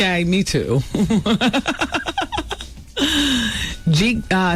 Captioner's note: laughter